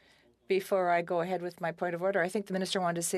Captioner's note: speaking French